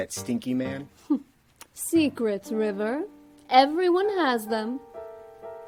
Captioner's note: chuckles